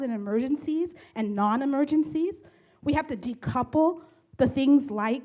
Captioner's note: none